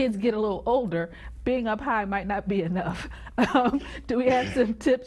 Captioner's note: giggles